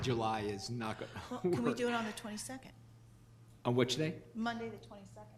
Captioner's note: laughs